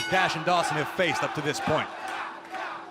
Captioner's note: bell ringing